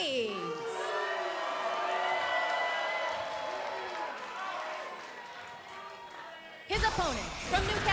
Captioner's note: cheers & boos